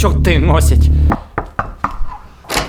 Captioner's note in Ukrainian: стук у двері